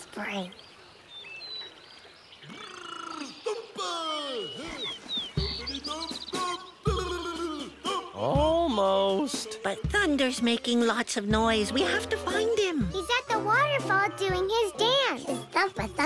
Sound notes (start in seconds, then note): 8.0 gurgling